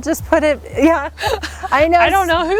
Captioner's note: laughs loudly